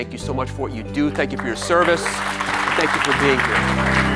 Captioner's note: audience applauds